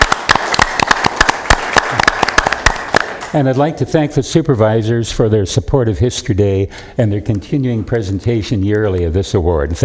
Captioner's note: applause